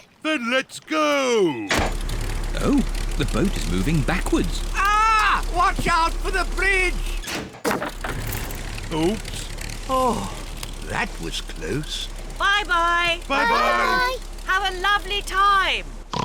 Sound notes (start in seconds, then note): 1.4 lever clunks; 7.6 crunching